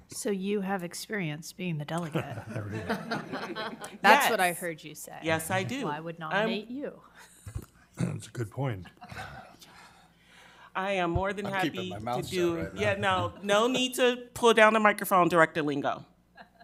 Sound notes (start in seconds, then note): 2.1 members laughing; 2.4 speaking faintly; 16.4 member laughing